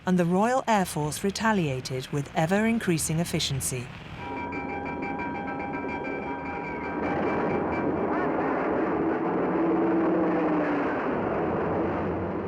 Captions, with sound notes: and the Royal Air Force retaliated with ever increasing efficiency. (alarm rings) (engine roaring)